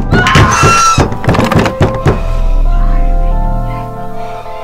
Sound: screams

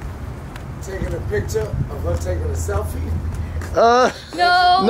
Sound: voiceover; laughs

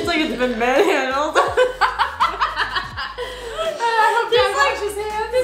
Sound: laughs

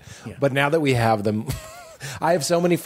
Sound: laughs

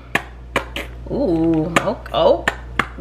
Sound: bottle squirting

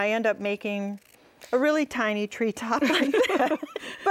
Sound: both laugh

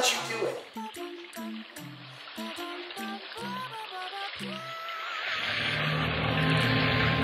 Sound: lively music; bubbling; dramatic music

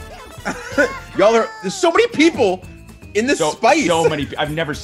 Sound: laugh

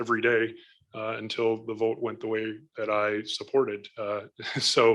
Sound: laughs

